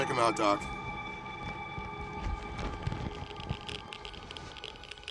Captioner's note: geiger counter clicking